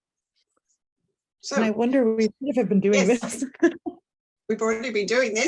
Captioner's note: laughter